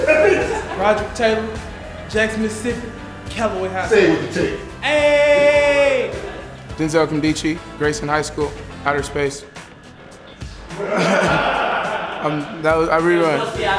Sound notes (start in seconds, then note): 10.8 laughter